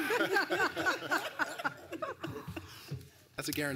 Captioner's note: laughter